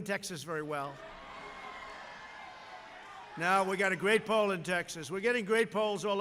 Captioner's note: applause